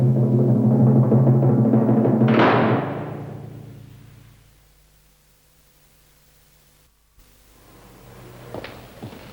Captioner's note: gate slam